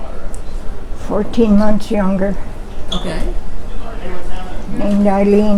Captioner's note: talking in background